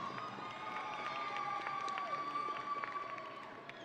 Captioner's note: audience cheering